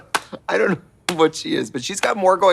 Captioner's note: Katya laughing; hand smacking